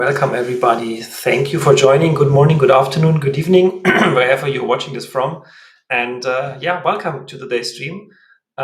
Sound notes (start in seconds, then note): 3.8 clears throat